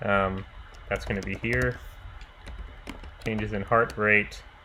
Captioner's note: keyboard clicking